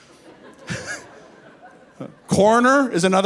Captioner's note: laughing